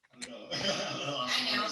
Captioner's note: laughs